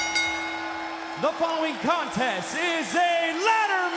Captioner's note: bell ringing